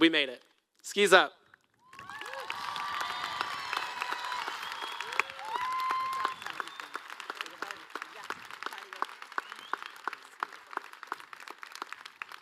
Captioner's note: applause